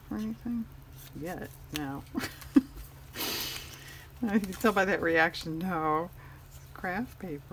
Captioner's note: laughs